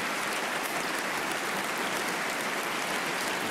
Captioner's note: applause